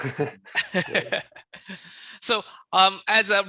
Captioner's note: laughing